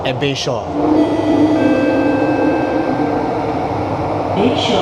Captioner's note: announcement chime